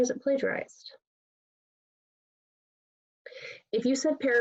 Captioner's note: pause